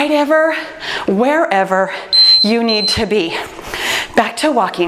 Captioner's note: timer beeps